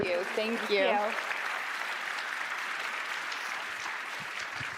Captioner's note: applause